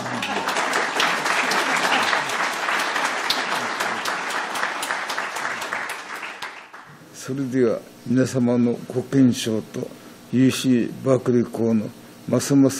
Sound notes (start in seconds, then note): 0.0 audience laughing; 0.0 applauding; 7.4 speaking in foreign language